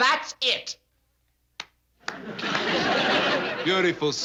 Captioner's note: clapping